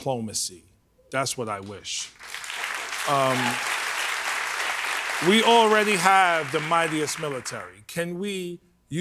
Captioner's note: cheers and applause